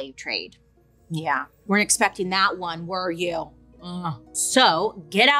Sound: groans

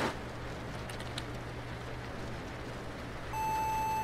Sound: machine beeping

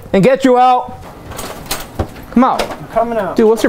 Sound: door creaks

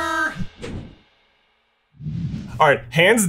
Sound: face swooshes; logo swishes

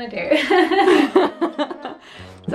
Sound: laughs

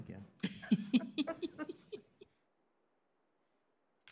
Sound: laughs

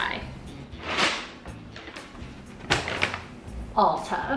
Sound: bag rustles

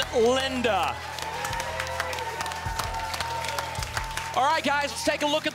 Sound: applause and cheering cont

